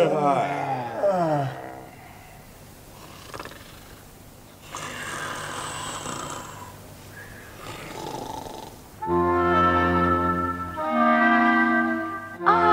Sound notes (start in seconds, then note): 3.0 snore